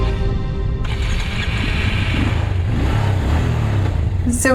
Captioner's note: engine starts and revs